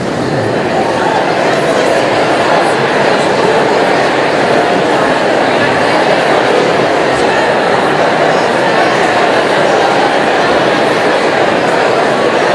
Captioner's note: audience chatter